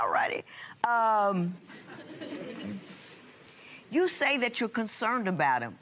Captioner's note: chuckling